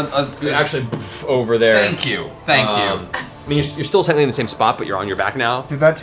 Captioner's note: boof